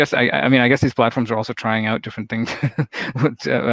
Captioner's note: laughs